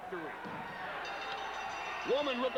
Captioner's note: bell ringing; crowd cheering